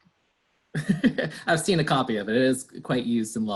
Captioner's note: laughs